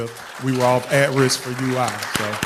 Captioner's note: applause